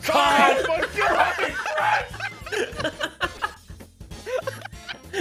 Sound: laughs

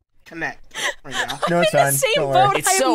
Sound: laughing

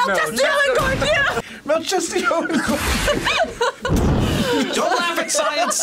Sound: both laugh

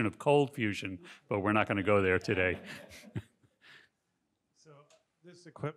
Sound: chuckles

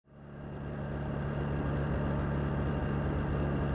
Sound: motorcycle engine noise

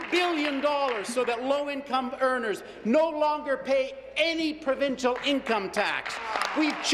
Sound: applause

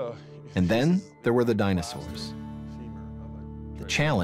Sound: voiceover

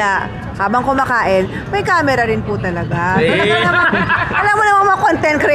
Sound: laughs

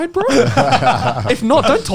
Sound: group laughs

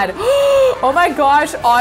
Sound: gasps

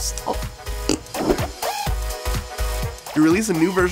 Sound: blows raspberry

